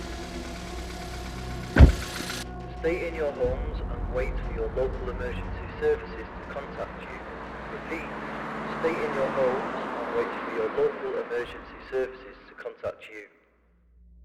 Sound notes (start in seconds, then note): 0.6 door shuts